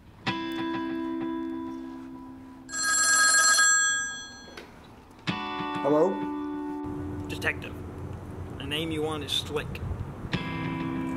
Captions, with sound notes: [Chill Music] [Phone Rings] Hello. Detective, a name you want is Slick.